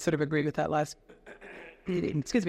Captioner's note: clears throat